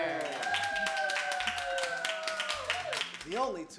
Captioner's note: clapping